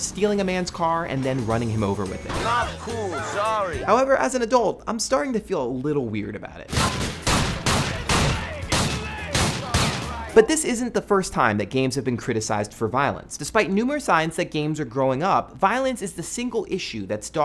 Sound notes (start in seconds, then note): 3.0 screaming; 6.7 gunfire